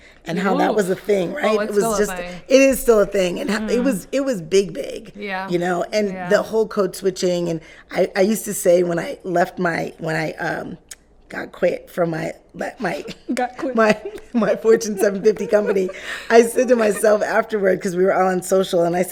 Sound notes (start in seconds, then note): 12.7 laughing